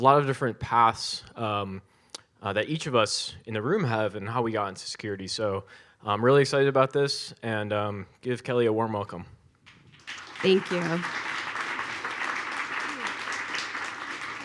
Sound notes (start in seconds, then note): 9.7 audience applauds